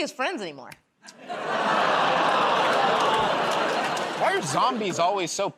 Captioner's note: laughter, groaning